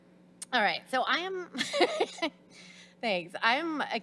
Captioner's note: laughs